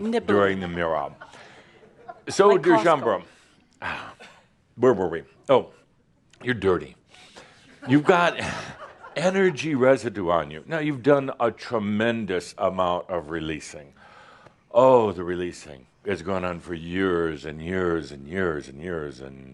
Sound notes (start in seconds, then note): 1.3 a few giggles; 7.7 more giggles